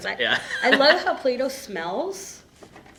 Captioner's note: laughter